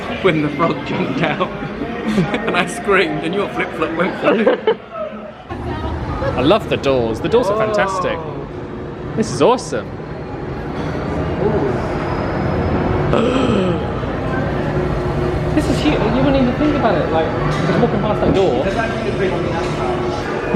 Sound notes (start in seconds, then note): 13.3 gasps